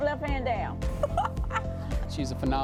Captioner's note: laughs